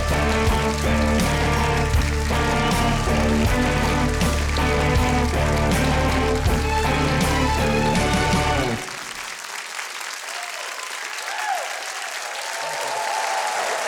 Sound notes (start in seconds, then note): 8.9 applause